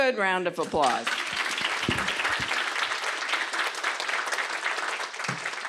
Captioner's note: applause